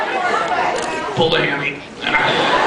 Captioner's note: groan; laughs